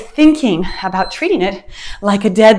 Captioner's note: timer beeps